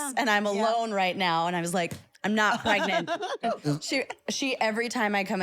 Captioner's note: laugh